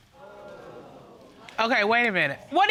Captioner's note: audience exclaiming